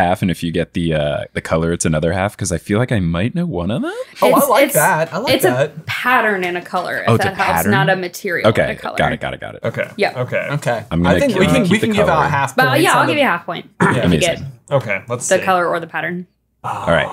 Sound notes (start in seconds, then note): 13.8 clearing his throat